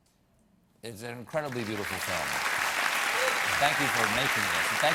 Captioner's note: applause